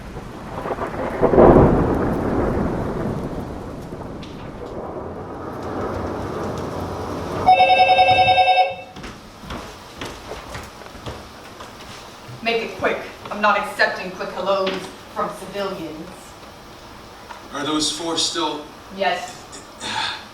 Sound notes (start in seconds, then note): 0.1 thunderstorm & rain sound; 7.4 phone rings; 9.4 rain & city background sound